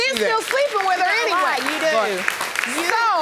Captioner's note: audience clapping